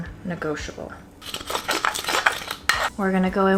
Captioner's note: pestle scraping